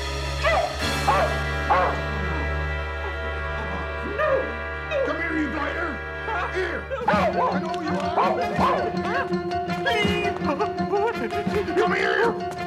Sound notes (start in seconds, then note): 0.4 barking